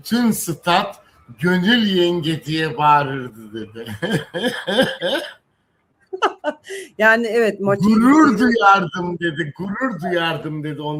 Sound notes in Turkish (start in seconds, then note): 3.8 kahkaha